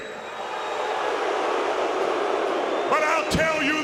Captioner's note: crowd booing